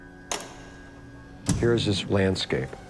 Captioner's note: pinball flipper echoes